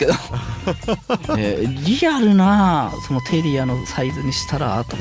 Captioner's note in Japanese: 笑い